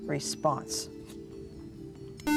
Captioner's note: buzzer